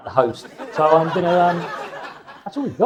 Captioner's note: audience laughs